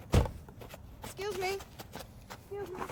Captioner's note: car door slams